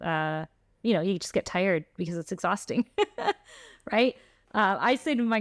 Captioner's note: laughter